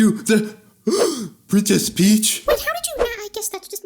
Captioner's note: gasps